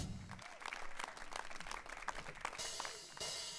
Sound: applause

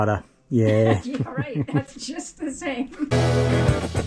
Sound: laughing

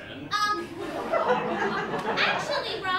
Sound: laughter

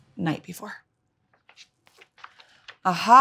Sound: book page turns

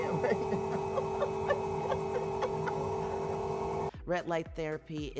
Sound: chuckles

